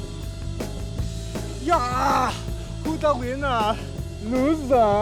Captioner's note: in bad Austrian accent